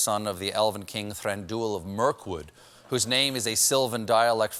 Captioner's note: none